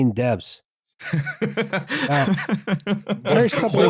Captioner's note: laughs